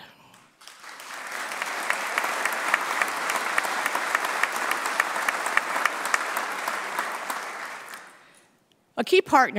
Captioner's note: applause